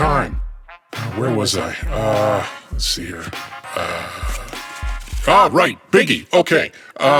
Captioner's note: shuffling noises